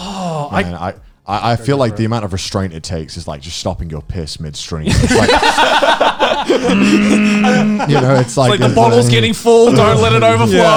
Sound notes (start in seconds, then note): 4.9 laughs